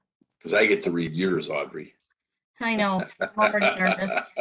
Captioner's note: laughs